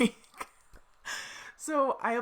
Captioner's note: laughs